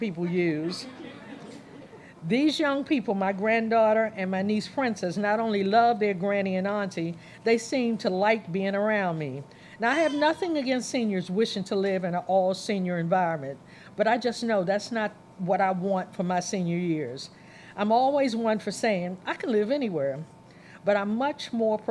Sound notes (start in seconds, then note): 0.6 laughter